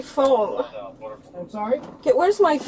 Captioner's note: radio chatter